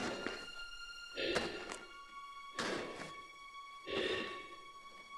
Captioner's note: Chemock breathes heavily